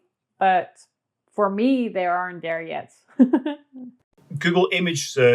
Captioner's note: laughs